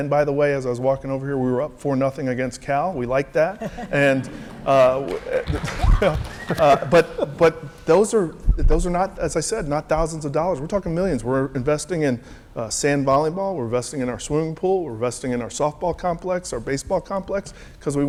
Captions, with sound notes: And, by the way, as I was walking over here we were up 4-0 against Cal. We like that. And wha,. [APPLAUSE]. >> Yeah. >> but, but those are, those are not, as I said, not thousands of dollars. We're talking millions, we're investing in, sand volleyball, we're investing in our swimming pool, we're investing in our softball complex, our baseball complex.